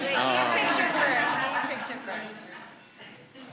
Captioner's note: audience laughing